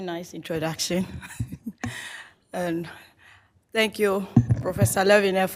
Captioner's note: laughs